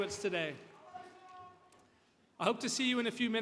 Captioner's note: applause